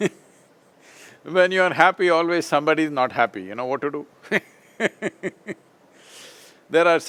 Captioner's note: laughs; laughs